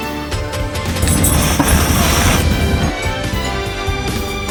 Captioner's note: hisses